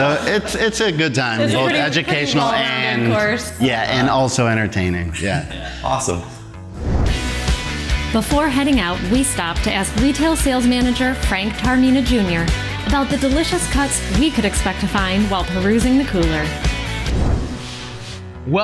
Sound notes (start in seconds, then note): 0.0 laughter; 6.7 logo whooshes; 17.0 logo whooshes